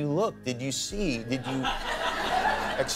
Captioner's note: audience laughter